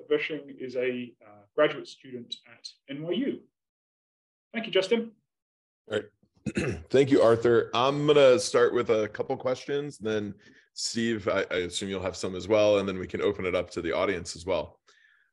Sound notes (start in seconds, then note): 6.4 cough